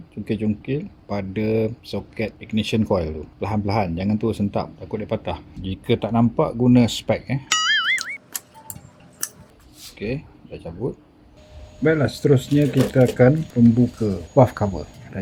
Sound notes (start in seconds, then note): 7.5 toing